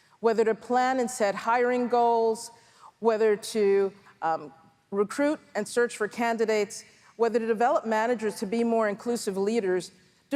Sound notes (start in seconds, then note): none